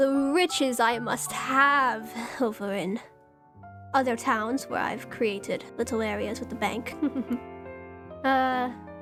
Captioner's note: giggles